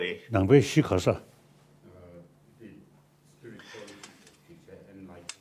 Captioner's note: speaking foreign language